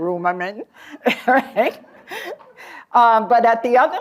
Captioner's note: laughter